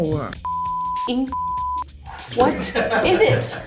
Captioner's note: beep